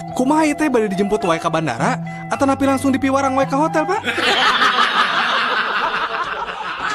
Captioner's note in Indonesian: tertawa